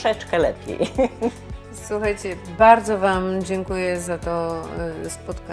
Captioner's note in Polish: śmiech